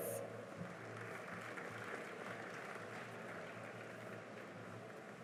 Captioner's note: cheering and applause